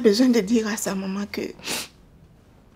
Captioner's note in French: reniflement